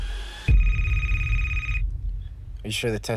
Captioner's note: phone rings